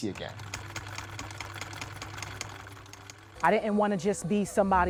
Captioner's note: sewing machine whirring